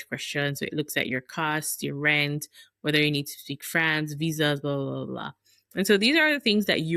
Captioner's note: French